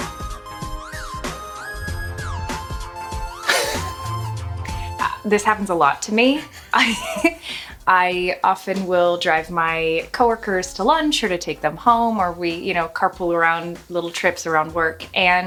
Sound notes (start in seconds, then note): 3.4 chuckles; 6.4 giggles